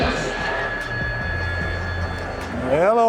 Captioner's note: phone rings